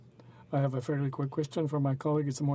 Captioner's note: speaking in french